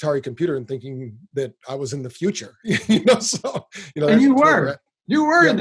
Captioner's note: laughs loudly